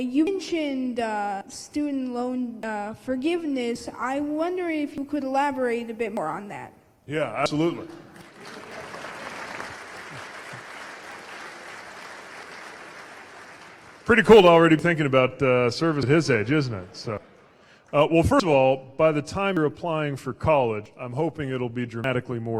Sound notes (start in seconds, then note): 13.1 applause